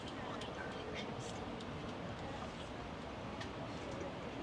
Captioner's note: people chattering